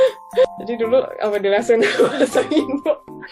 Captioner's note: laughs